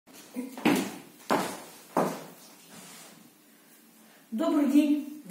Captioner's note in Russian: шаги